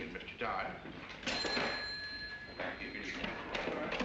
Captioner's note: cash register rings